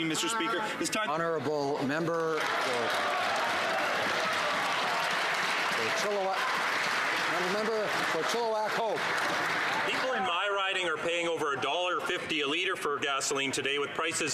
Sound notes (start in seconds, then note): 6.6 some Applause